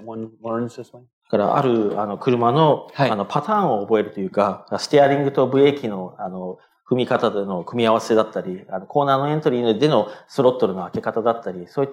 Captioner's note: speaking japanese